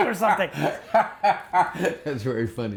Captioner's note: laughing